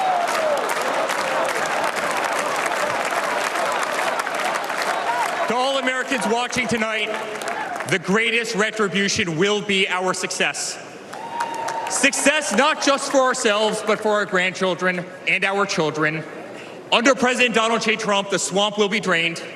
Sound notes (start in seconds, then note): 11.0 applause